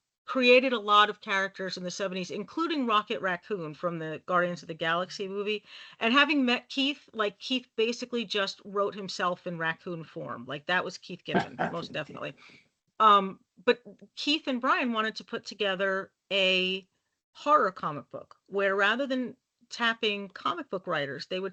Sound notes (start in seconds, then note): 11.3 laughing